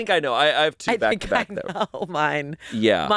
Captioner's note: laughs